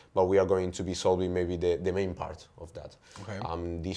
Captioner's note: none